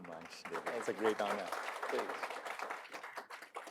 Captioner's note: applause